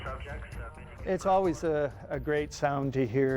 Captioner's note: voiceover